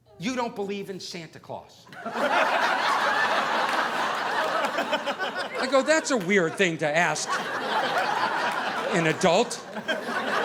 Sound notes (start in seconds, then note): 1.9 audience laughing